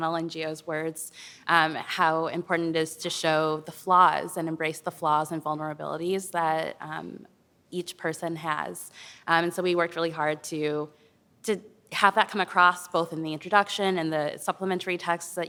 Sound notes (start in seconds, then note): none